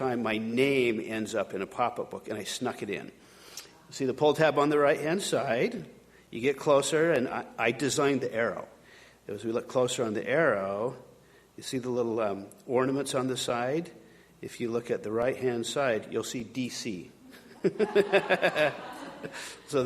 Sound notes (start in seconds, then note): 17.3 chuckling; 17.6 audience laughing